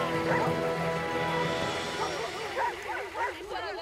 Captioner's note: dogs barking